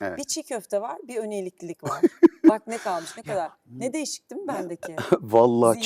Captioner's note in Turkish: kahkaha